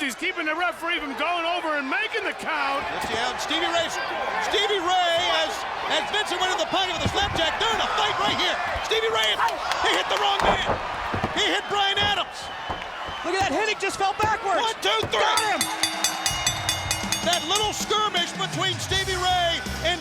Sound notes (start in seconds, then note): 15.2 bell ringing